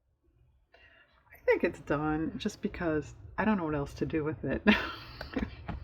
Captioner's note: laughs